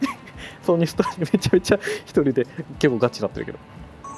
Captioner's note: laughs